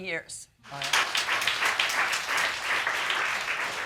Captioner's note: audience applauding